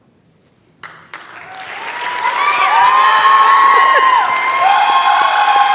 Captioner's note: applause